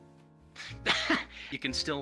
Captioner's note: chuckles